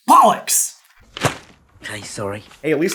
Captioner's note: thwap